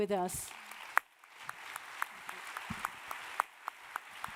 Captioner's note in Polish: oklaski